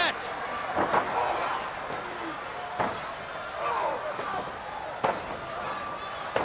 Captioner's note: wrestlers grunting; crowd yelling